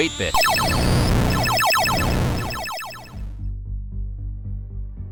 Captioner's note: game sound effect